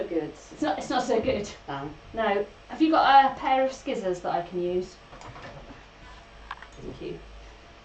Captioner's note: deliberately mispronounces